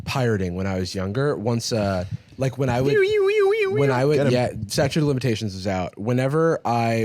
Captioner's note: imitating siren